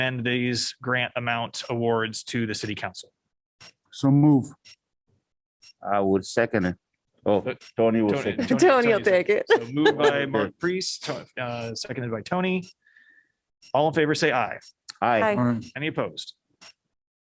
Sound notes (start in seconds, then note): 9.5 laughter